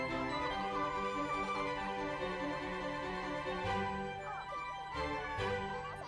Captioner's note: laughs